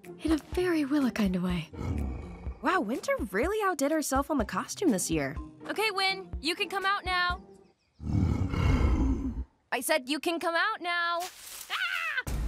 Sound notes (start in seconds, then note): 1.7 growling; 8.0 growling; 11.2 rustling